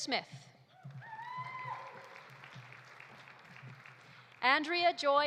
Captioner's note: audience cheering; audience applauding